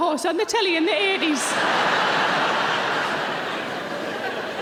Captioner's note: audience laughs